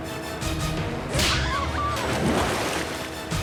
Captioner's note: screaming